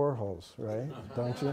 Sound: laughter

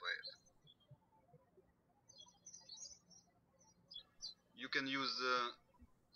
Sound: birds chirping

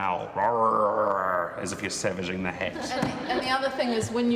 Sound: growling

